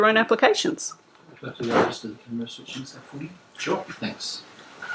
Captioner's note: background chatter